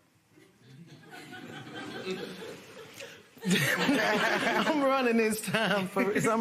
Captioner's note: laughter